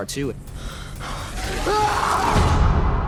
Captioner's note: roars